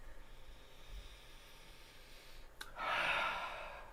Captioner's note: sniffs